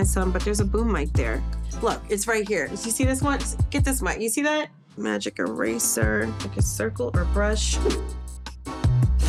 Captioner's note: none